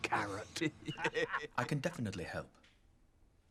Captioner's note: men laughing